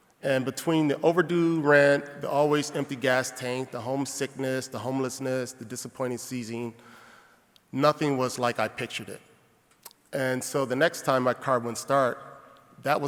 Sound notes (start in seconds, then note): none